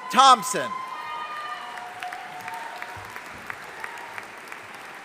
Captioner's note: audience applauding